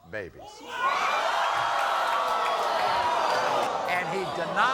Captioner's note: screaming